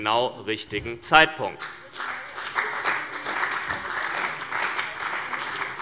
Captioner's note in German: Beifall bei dem BÜNDNIS 90/DIE GRÜNEN und der CDU